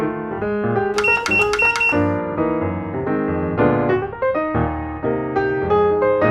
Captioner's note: click 4 times in a row